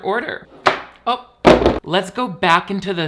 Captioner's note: case drops